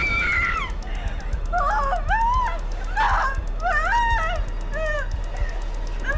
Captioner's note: Tina shrieks; shrieks; Tina whimpering